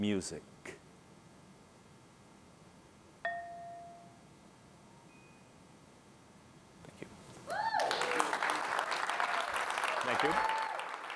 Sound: applause

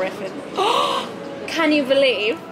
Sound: gasping

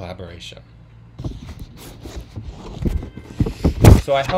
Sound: paper noises, apologies

